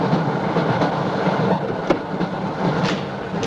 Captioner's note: distant door opening